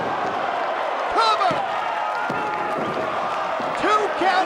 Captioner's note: hand pounding